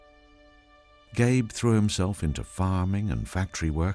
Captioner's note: sombre piano music; voiceover